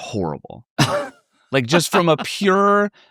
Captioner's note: chuckles